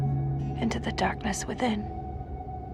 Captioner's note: voiceover